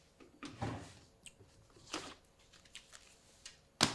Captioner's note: papers rustling